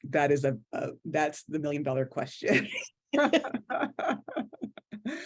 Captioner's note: laughs